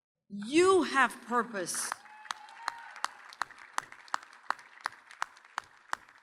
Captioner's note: audience cheers and applauds